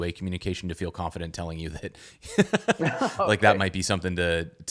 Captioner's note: laughs